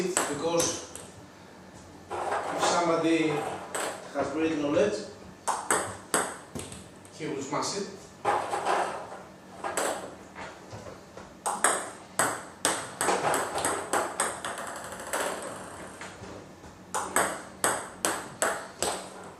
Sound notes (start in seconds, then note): 11.4 ball ping pong hitting